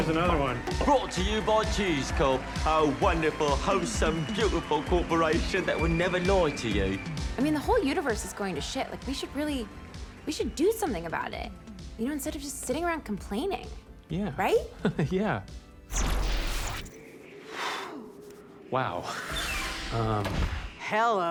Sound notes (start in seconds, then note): 16.5 both shudder